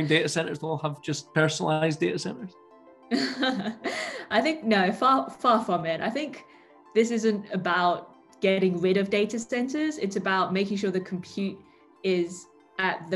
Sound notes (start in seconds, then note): 3.2 laughs